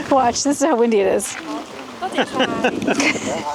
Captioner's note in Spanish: Risas